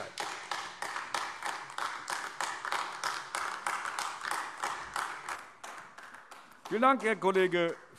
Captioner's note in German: Beifall AfD